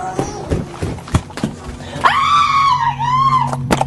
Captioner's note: screaming